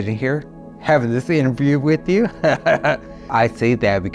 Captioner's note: laughing